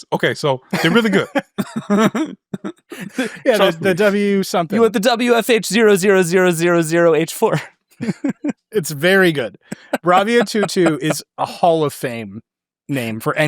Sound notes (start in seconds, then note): 0.7 laughing; 8.0 group laughs